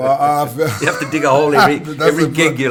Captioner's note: laughs